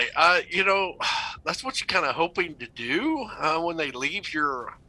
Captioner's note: sighs